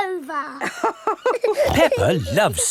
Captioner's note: both laughing